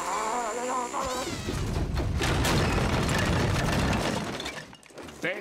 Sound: grumbling; rumbling

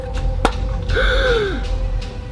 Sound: thump; gasps

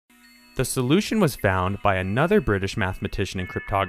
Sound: voiceover

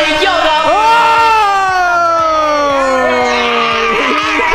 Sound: boys shouting

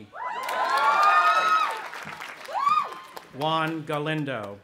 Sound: audience applauding and cheering

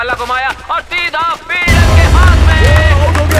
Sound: applause

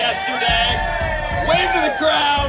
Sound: crowd cheering

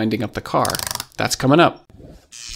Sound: spring clicking

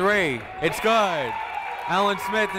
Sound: cheering

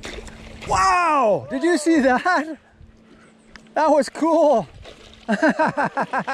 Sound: laughs

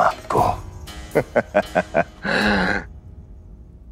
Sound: chuckling

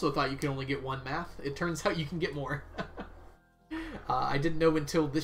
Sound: laughs

